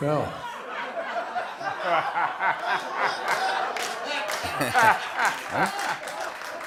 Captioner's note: laughter